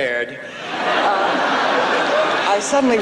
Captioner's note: laughs